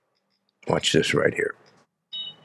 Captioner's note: whistle blows